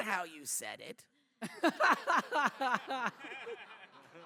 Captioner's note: laughter